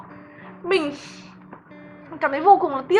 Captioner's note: sigh